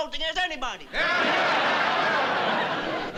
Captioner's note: cheering